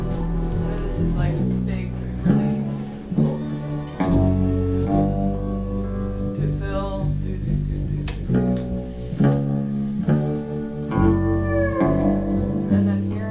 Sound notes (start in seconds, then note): 8.8 hums; 10.0 bass strumming